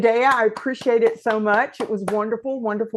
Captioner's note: applause